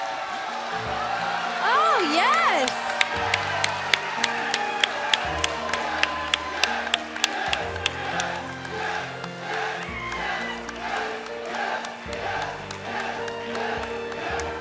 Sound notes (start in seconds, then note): 3.9 crowd cheering